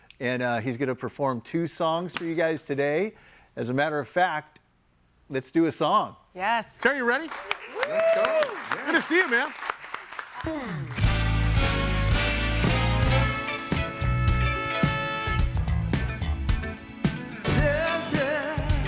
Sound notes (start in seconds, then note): 10.2 all clapping; 11.1 upbeat music